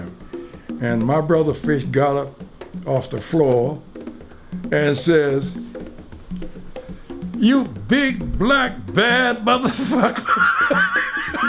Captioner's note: laughs